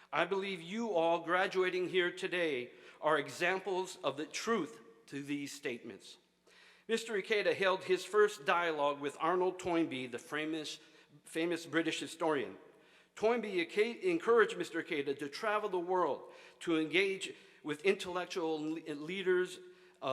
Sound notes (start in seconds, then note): none